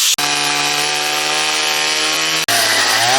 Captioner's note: chainsaw roars; chainsaw continues to roar